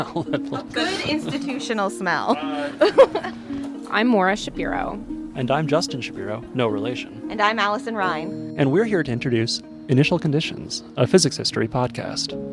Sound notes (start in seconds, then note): 0.0 laughs